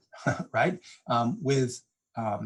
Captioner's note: giigles